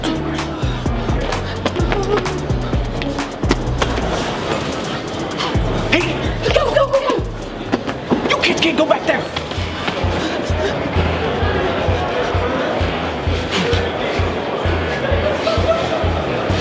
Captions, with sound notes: - Hey! - Go, go, go! - You kids can't go back there. (girls pant) (upbeat music)